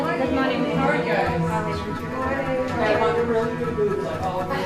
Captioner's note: people murmuring